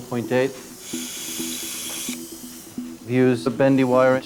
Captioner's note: drill whirring